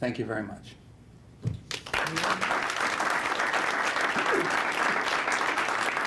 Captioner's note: applause